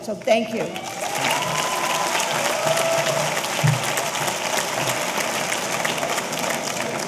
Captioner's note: audience applauding; audience cheering